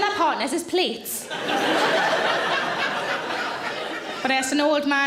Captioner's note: audience laughing